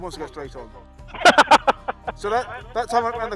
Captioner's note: laughs